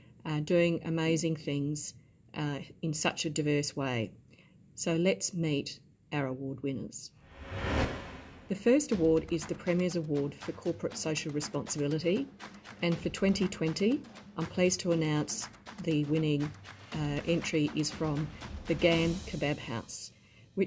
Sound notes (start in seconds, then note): 7.2 air wooshing; 7.4 upbeat music